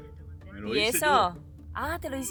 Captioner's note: in Spanish